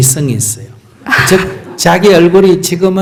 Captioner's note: questioner Laughter